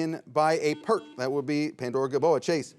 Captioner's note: bell chimes